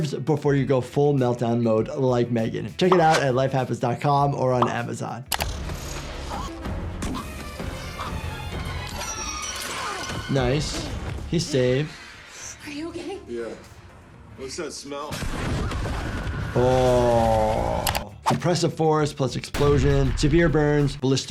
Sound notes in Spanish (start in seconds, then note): 5.4 música dramática; 15.1 retumbar de explosión